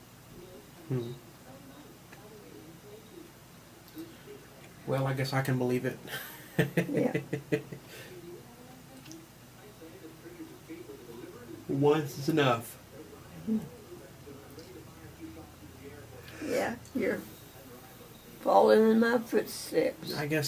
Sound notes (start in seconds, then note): 6.2 laughs; 13.4 nods yes.. mmhmm